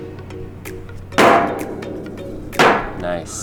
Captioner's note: banging